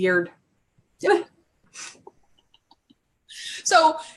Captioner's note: laughs